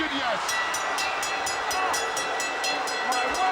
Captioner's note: bell ringing